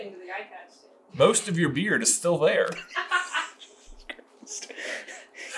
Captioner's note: wheezing whisper